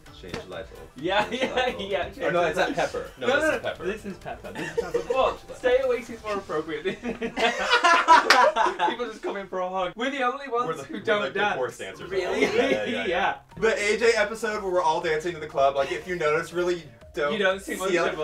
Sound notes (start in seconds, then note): 0.7 laughing; 6.8 laughter